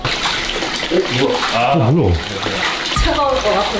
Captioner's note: the production crew murmurs